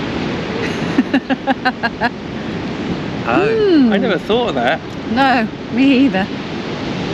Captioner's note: laughter